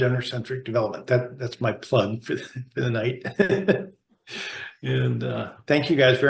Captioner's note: laughs